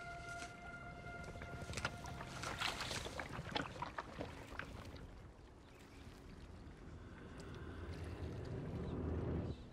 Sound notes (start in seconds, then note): 0.9 gurgling